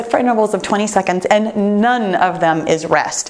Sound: none

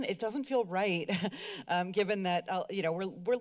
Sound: giggles

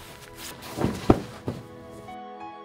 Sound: thud

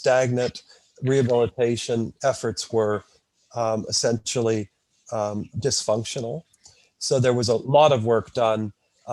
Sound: audio distorted

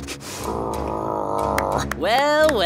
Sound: wolves growling

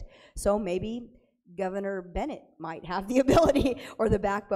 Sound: laughing

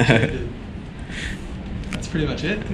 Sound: laughs

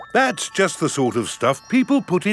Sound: none

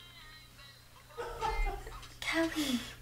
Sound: hip hop music plays; man laughs

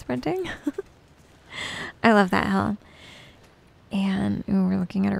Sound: giggles

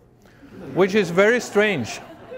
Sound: laughter

